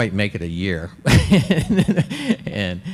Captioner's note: laughs